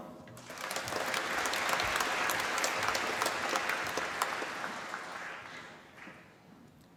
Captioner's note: applause